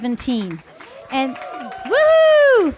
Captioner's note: applause and cheers